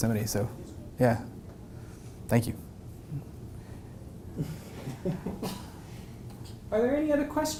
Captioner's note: laugh